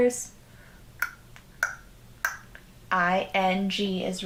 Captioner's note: clicks tongue